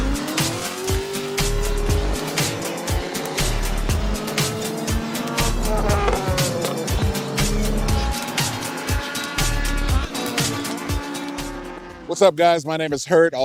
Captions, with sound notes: (engine revving) What's up guys, my name is Hurt,